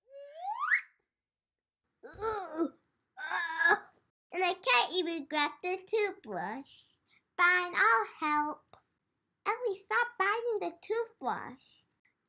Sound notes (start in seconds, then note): 2.6 grunts